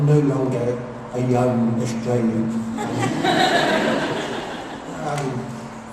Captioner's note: laughter